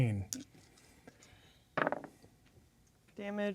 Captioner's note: dice rolling